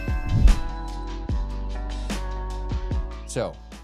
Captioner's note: logo dings; screen whooshes